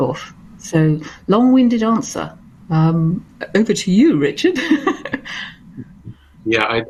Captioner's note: laugh